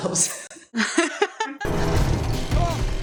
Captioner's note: laughter